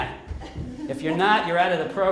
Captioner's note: group laughing